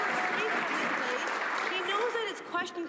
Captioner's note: some Applause